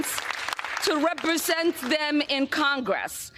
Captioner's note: applause